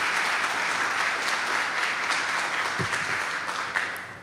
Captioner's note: applause